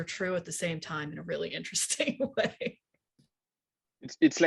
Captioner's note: laughing